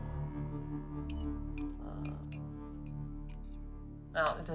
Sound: tense music; metal clanking

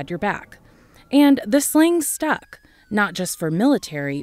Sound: siren wails

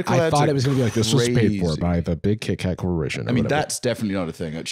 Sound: deep voice

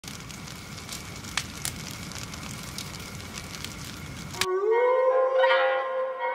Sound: firewood crackling

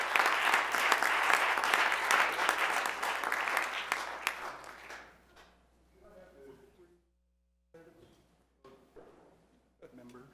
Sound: applause

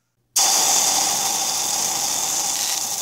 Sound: sizzle

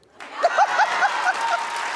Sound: audience claps; laughs

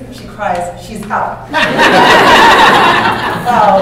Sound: laughter

